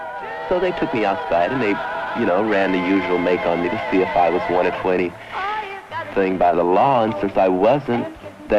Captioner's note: sings; narrator over music